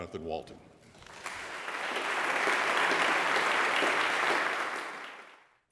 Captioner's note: audience applauds